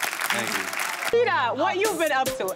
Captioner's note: audience clapping